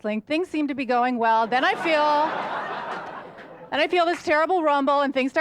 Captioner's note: audience laughter